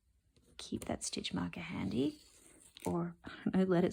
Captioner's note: sound of stitch marker sliding